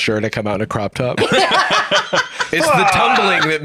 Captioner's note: laugh